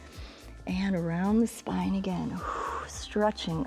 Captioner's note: exhales